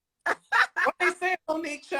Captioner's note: Monique laughs